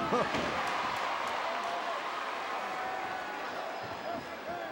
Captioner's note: crowd murmuring